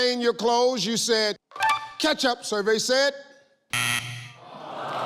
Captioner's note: buzzer; audience moans